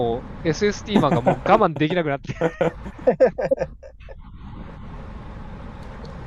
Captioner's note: laughter